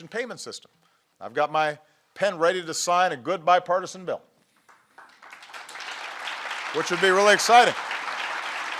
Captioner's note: applause